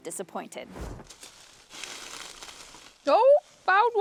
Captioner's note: leaves crunching